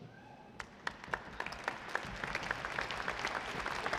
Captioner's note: audience applauding